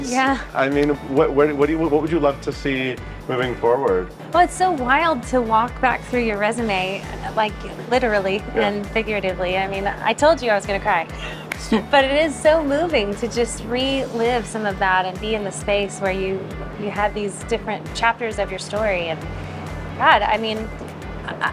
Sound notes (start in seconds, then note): 11.1 chuckling; 11.2 hands clapping